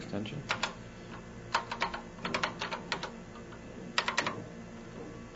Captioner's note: keys clacking